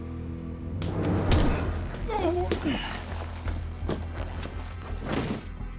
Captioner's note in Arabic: موسيقى متوترة; جلط، تأوه; ارتطام على الأرض